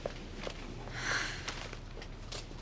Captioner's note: sighs